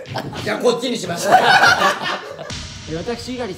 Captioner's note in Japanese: 爆笑